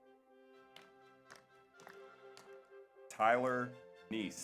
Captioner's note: audience applauds